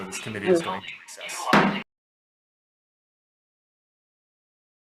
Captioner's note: gavel bangs